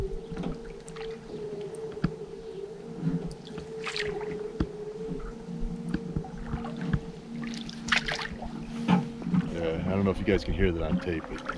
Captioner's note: howling in distance; fish splashing